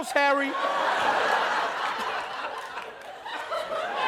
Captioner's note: laughter